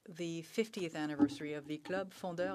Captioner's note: speaking French